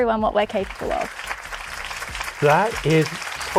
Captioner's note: applause